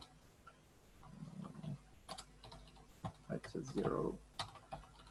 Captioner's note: mumbling to himself